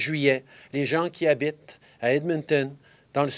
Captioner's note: speaking french